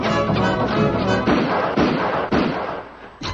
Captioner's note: gunshots; arrows being shot; gunshots